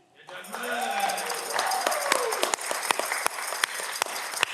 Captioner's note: audience clapping